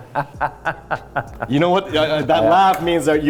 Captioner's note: laughing